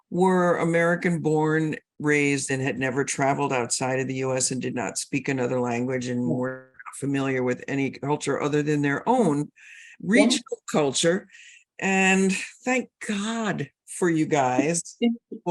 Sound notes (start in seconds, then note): none